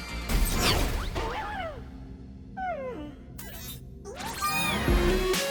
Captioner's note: robot squeaks